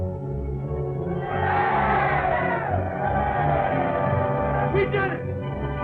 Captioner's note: cheering